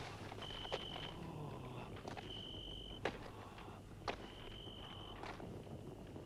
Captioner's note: crickets chirping; Torente breathing heavily